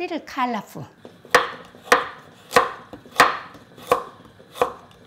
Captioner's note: knife chopping